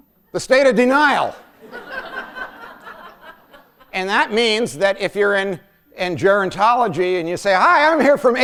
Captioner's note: laughter